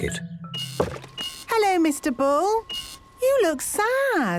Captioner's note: machine beeping